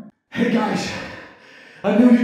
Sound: muffled Breath

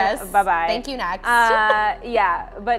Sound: chuckles

